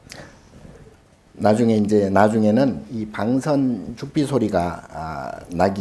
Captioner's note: speaking Korean